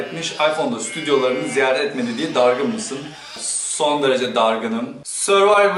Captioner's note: sheep sounds in the background